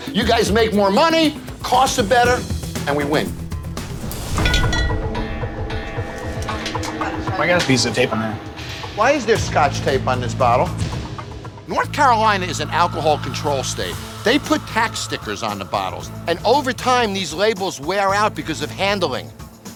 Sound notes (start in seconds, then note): 4.2 bottles clink; 5.0 dramatic music